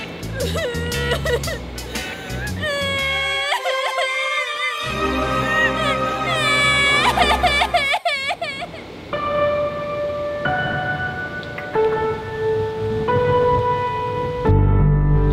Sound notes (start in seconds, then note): 0.1 crying in the background; 5.6 crying in the background